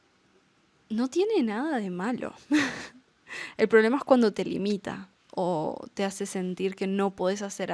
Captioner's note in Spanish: risas